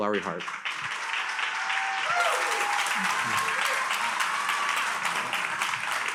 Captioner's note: attendees cheering and applauding